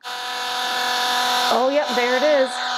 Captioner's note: pump roaring